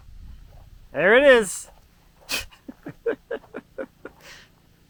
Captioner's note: laughs